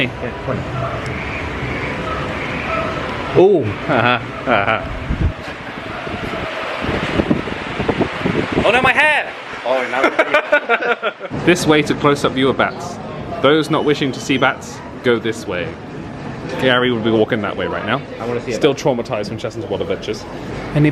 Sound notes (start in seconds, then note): 3.8 laughs; 9.9 laughs